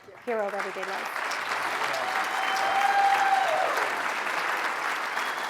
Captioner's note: audience applauds